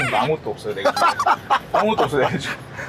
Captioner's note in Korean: ㅎㅎㅎㅎㅎㅎㅎ